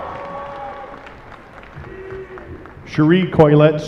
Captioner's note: applause